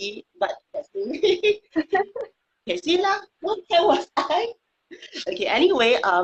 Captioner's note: speaking foreign language